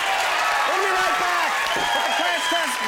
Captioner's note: audience cheers loudly